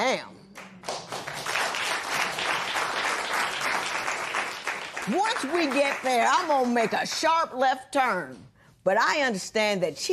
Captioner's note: applause